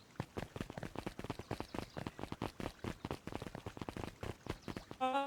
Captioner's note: fire crackling